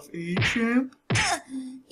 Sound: impactful blow lands

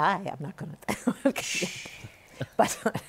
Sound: laughs

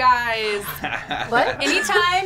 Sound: laughs

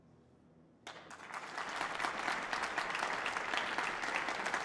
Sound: audience applauding

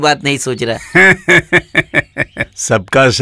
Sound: laughs

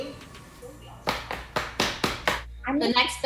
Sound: pan banging rhythmically

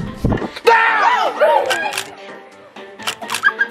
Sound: screaming

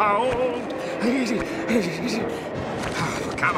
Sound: shivering

